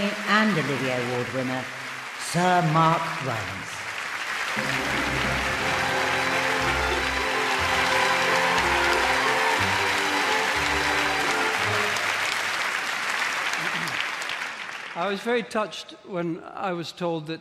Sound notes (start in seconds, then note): 3.7 audience applauding and cheering